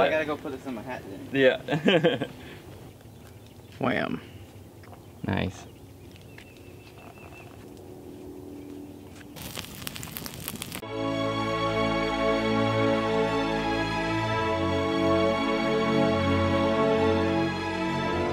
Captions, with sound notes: - Well I gotta go put this in my hat then. - Yeah (laughing). - Wham, nice. (fire crackling) (soft music)